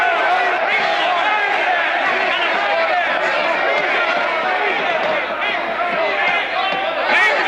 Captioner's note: Aplausos